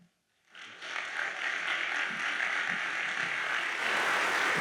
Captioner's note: audience applauds